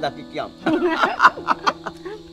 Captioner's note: both laughing